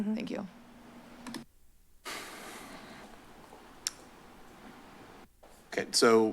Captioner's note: silence